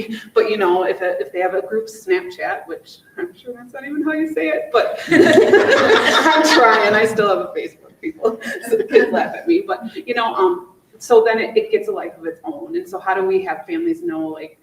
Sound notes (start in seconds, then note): 5.0 group laughing